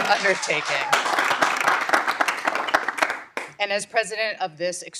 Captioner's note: audience applauding